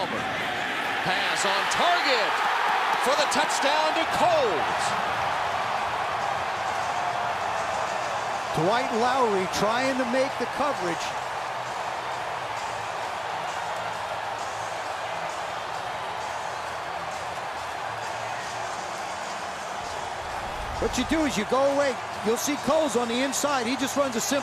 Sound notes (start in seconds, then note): 4.9 cheering